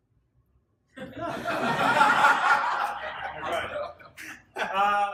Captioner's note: audience laughing